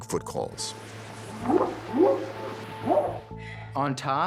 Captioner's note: whooping sound